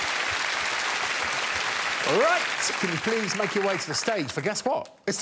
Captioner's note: audience applauding